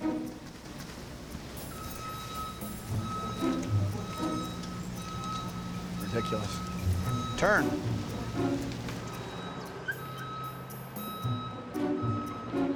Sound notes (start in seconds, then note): 1.6 bouncy music; 2.4 RV beeps; 9.7 RV beeping